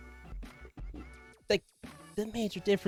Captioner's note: silence